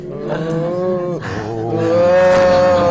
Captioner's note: moaning from panel